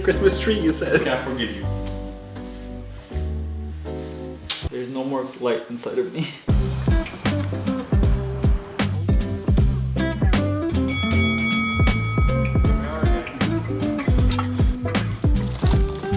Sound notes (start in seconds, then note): 6.8 upbeat music; 10.8 bell ringing; 13.5 upbeat music